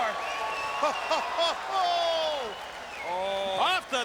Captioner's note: Bobby laughing